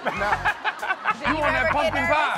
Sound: laughter

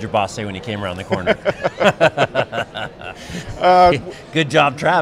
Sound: both laugh

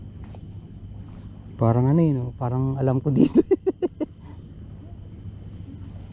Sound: laugh

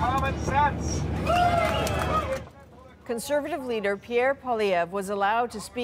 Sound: applause

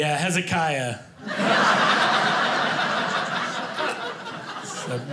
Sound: audience laughing

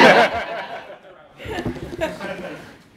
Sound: laughter

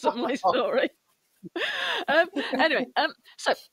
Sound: laughter

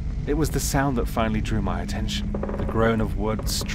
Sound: wood groaning

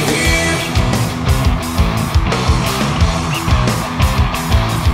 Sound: audience cheering

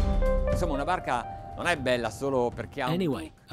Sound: speaking foreign language

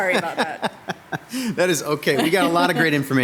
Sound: man laughing

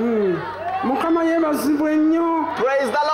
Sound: speaking local language

